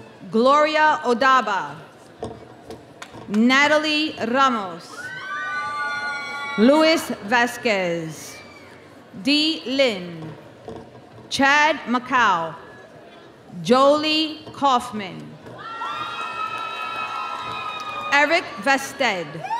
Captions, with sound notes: Gloria Odaba. Natalie Ramos. Luis Vasquez. Dee Lynn. Chad Maccuo. Jolie Kauffman. (audience cheering) Eric Vehstedt.